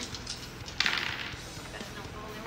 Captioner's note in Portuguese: dados rolando